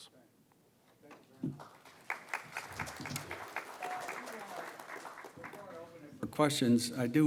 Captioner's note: applause